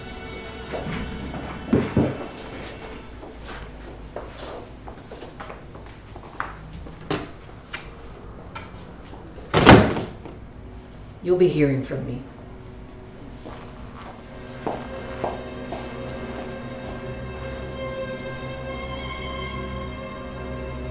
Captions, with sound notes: (footsteps pattering) (picture frame clatters) (picture frame thuds) You'll be hearing from me! (intense dramatic music)